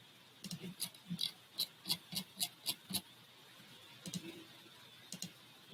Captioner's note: mouse wheel scrolling